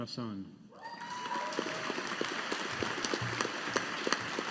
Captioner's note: audience applauding